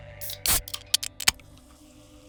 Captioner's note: soda can popping